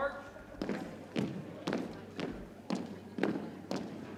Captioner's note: boots thumping